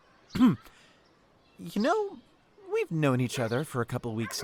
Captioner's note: clears Throat